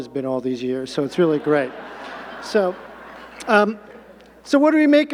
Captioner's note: audience laughing